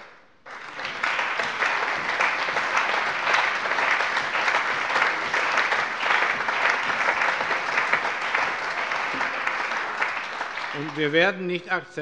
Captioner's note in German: Allgemeiner Beifall